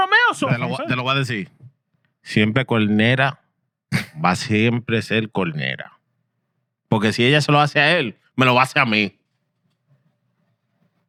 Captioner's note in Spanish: Hablando en idioma extranjero